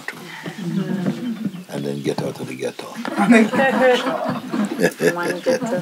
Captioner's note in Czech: smích